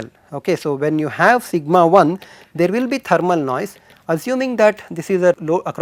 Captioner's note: thermal noise